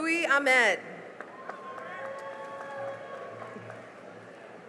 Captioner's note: cheering and applause